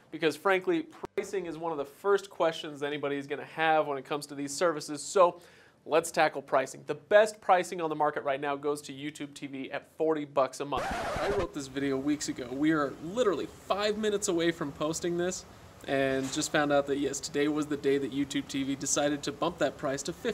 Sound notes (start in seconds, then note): 10.7 record scratch